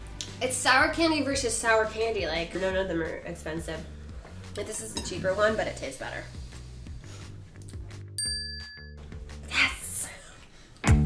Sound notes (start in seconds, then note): 8.2 bell rings; 10.8 uplifting music